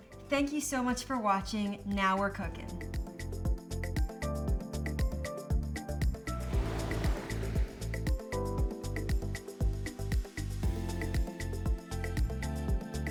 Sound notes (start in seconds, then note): 3.2 upbeat music continues; 6.3 water splashes; 9.3 upbeat music continues